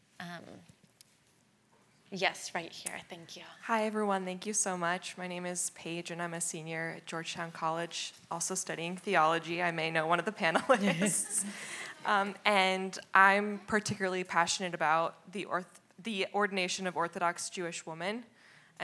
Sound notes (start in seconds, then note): 10.6 laughs; 11.3 audience laughs